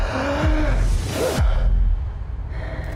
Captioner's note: gasping